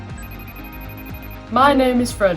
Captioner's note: phone rings